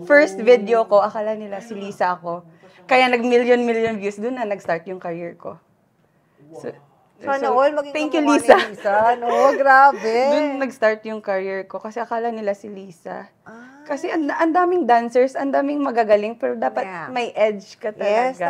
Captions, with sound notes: In my first video, they thought I'm Lisa. That's when I received millions of views. It basically started my career. Thank you, Lisa. [laughs shyly] That's when my career started. Because they thought that it's Lisa. There are lots of great dancers out there but you need to have an edge.